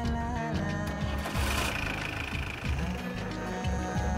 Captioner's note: engine reving